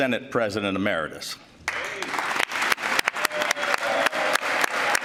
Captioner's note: applause